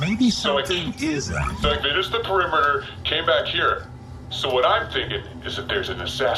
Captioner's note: conspiratorially